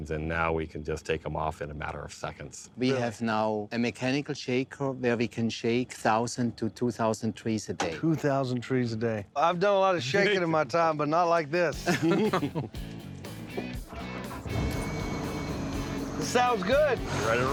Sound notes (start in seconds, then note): 11.7 chuckling; 14.1 engine starting